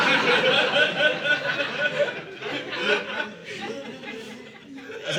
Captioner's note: audience laughing